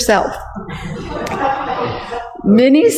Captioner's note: laughs